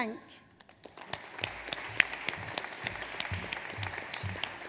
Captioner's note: audience applauds